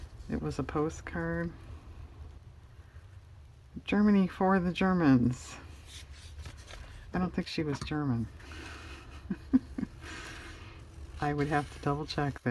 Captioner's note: laughs